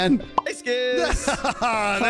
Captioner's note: pop!; triumphant laugh